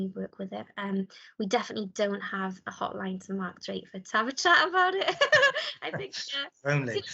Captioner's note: laughs